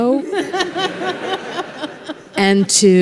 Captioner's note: congregations laughs